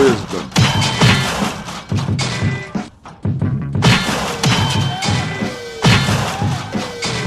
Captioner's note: gunshots